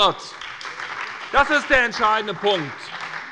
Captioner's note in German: Beifall bei der SPD